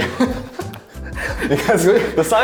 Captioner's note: laughing